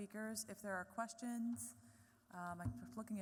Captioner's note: none